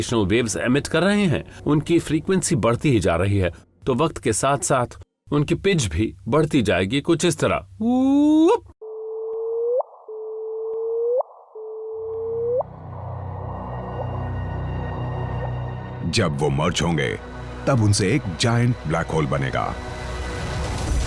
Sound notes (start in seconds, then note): 8.8 increasing pitch; 11.3 repeating noise with increasing pitch